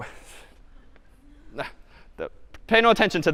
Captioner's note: laughs